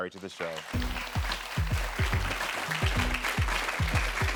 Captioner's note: audience claps